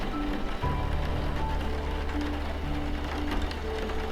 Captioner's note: rain pattering